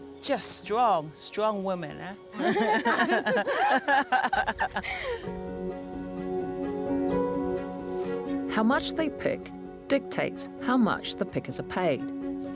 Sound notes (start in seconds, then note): 2.3 they laugh